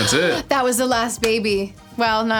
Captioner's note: gasps